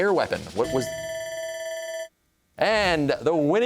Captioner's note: bell ringing